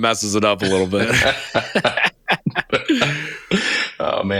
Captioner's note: laughing